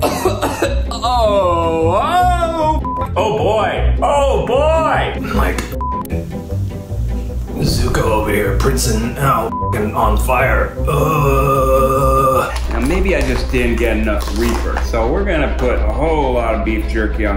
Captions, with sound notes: - (coughing) Oh! (beep) - Oh boy! Oh boy! - I'm like (beep) Zuko up in here princing now (beep) on fire. (groaning) - Maybe I just didn't get enough reaper. So we're gonna put a whole lot of beef jerky